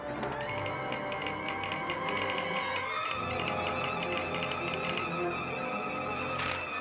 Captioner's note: suspenseful music; telegraph machine tapping